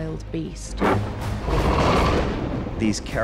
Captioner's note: growls